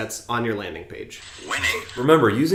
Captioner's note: computer Voice